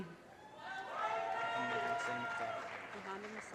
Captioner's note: audience cheers and applause